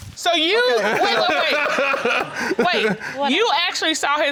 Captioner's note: laughing